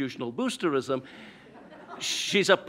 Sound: audience laughs

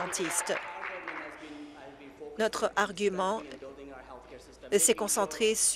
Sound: applause

